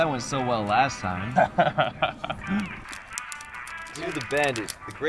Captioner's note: laughs